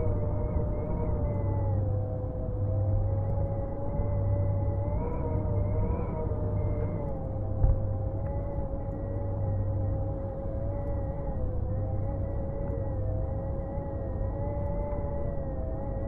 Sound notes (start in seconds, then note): none